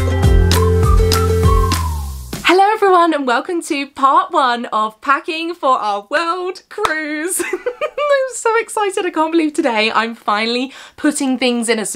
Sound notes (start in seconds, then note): 7.4 laughing